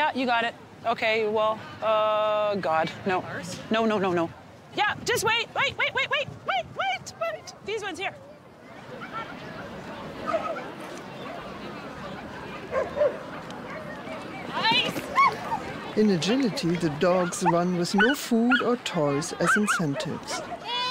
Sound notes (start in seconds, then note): 9.9 crowd bustling; 12.7 dog barking